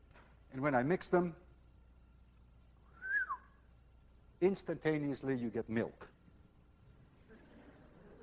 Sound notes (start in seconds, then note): 2.9 whistles; 7.3 class laughs